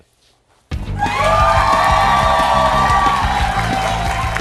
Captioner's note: cheers and applause